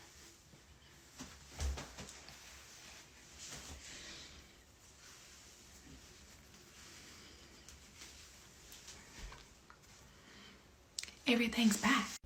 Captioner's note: silence